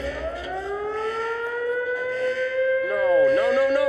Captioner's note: alarm wails